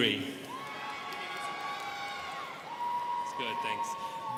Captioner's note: students cheering